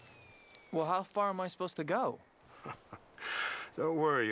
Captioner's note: chuckles